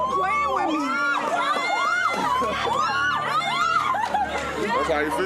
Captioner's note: cheering